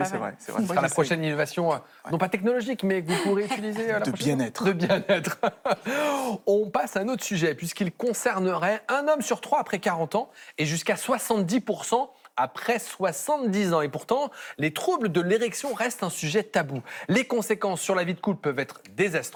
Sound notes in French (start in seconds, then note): 4.6 rires